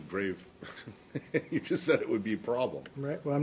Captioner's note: laughter